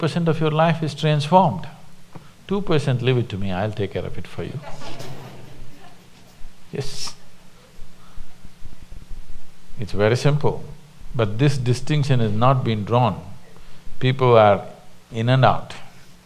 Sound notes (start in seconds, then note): 7.9 laughter